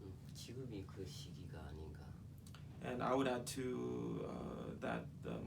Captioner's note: speaking korean